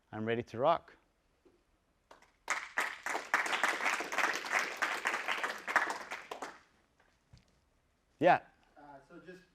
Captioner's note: applause